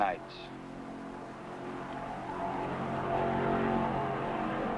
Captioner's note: engine rumbling